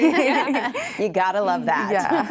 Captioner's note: laugh